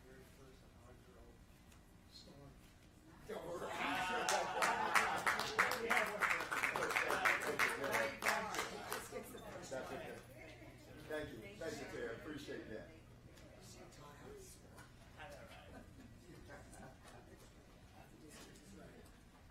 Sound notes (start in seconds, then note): 1.7 applause